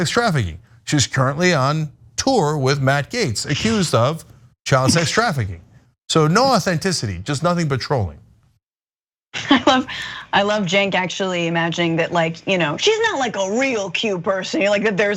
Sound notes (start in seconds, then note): 8.5 laugh